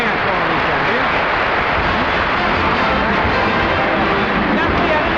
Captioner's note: audience applauding